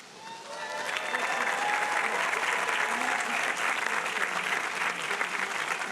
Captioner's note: audience applauding and cheering